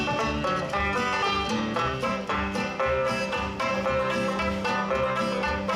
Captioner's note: none